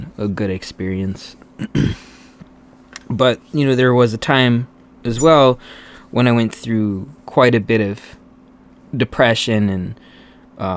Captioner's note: clears throat